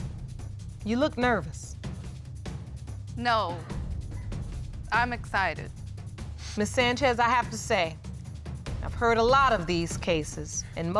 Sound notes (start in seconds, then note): none